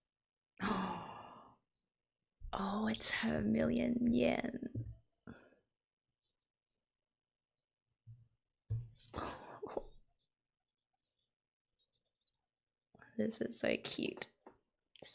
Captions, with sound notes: [gasp] Ohh it's her million yen! This is so cute.